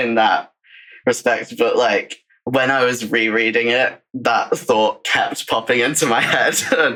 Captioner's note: laughs